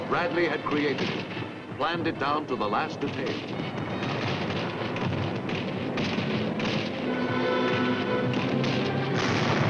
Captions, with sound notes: Bradley had created it, planned it down to the last detail. (bombs exploding) (dramatic music)